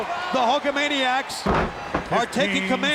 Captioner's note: body slamming